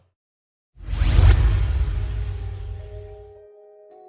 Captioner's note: Energizer whooshing